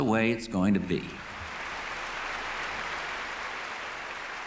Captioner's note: applause